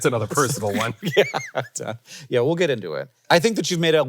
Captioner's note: laughs